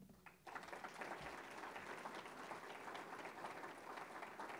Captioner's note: audience applauding